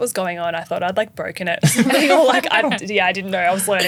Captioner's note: laughing